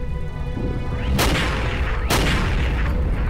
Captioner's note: gun shots